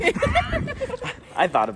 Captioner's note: both laughs